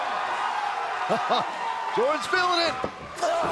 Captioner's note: cheers & applause